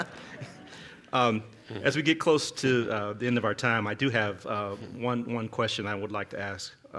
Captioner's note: laughter